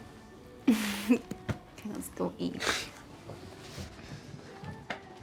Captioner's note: chuckles